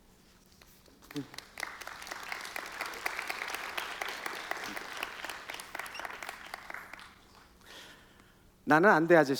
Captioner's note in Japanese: 拍手